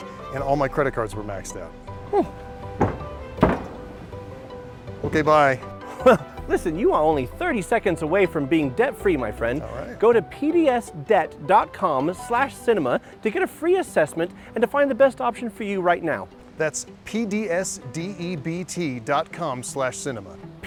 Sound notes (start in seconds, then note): 2.0 stomp, stomp